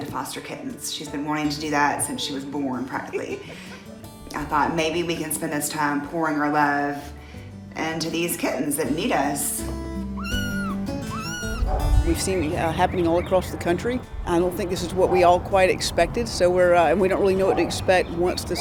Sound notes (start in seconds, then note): 10.1 kittens meow